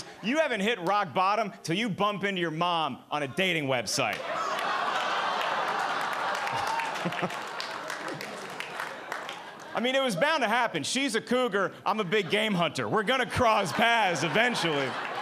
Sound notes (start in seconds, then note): 4.1 audience laughing and clapping